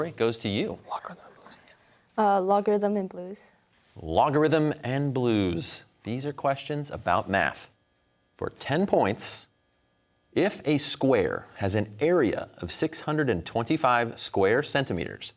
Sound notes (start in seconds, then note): 1.3 whispers